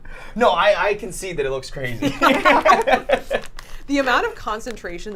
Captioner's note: laughs